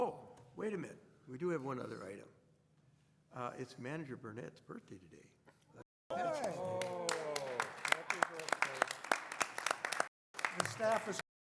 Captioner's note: clapping